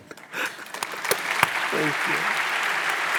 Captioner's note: audience applauds